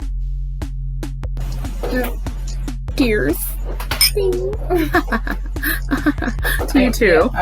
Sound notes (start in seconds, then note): 3.6 glasses clink